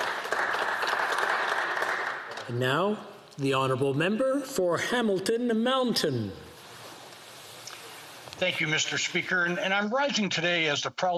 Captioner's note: applause